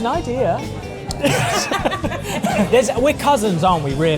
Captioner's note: laughs